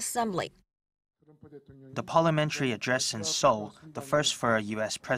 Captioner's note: Korean